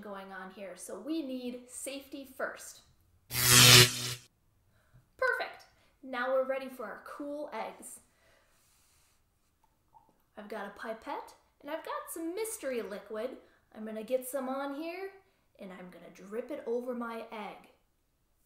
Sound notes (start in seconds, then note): 3.3 sound of electricity